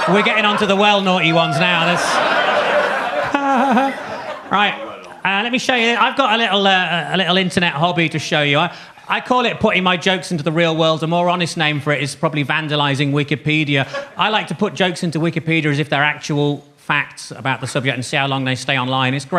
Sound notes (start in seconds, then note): 2.0 audience laughs; 3.5 laughs